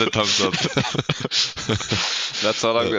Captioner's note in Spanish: risas